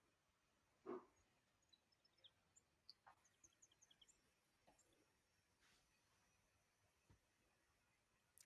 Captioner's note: silence